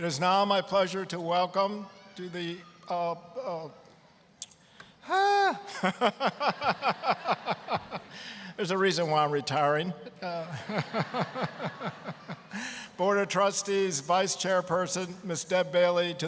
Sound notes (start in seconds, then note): 5.4 laughing; 5.8 audience laughing; 10.1 all laughing